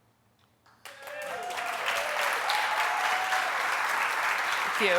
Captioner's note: audience applauds